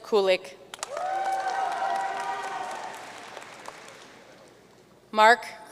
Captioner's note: audience cheering and applauding